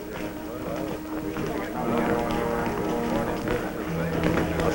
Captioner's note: chatter